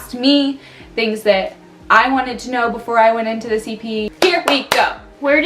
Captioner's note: clap